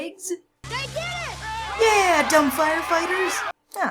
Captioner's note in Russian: толпа ликует